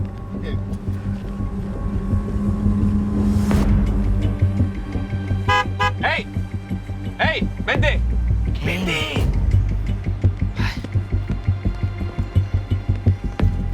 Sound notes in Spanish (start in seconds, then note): 5.3 Bocinazos